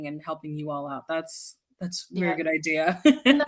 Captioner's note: laughs